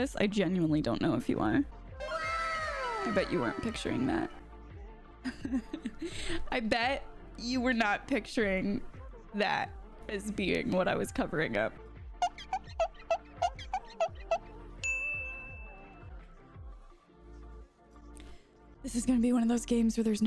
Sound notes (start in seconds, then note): 2.1 disembodied voice; 5.2 laughs; 12.2 squeaking; 14.9 dings